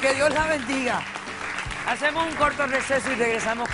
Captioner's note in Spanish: Aplausos